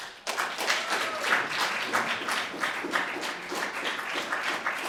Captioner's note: audience applauding